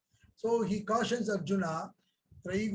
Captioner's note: speaks in Hindi